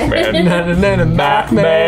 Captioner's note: both humming